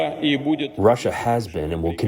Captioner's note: through translator